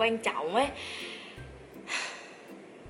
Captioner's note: sigh